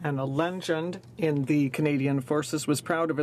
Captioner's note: speaking French